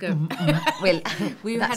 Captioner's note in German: lachen